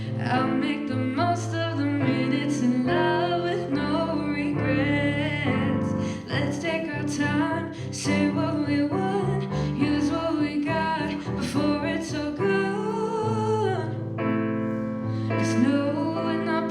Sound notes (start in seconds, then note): none